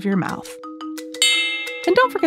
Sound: switch bell

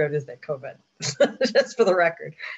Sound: laughs

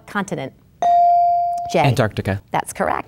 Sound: bell dinging

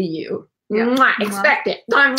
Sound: lips smacking

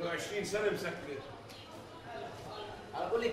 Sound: Arabic

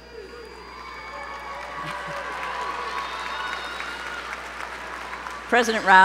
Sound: applause

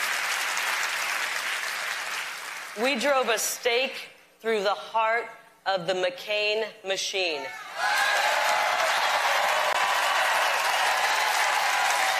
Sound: applause

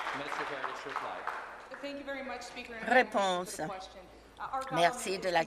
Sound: some Applause

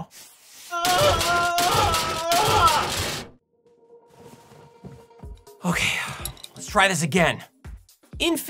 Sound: screaming and banging

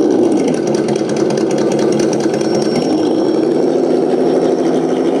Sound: throttling down

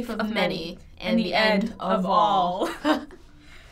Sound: chuckles

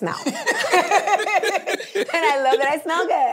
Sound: both laugh

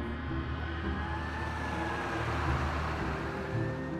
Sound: sonido de sirenas

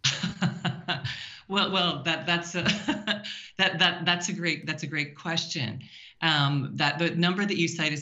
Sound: laughing

